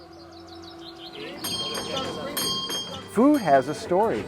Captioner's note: bell ringing